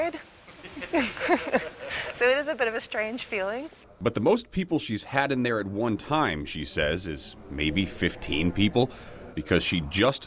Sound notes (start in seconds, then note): 0.6 laughs